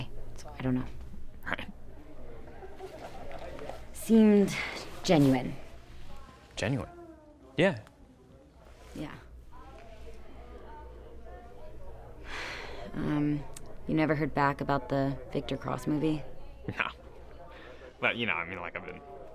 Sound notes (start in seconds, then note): 10.0 crew softly chattering; 12.3 sighs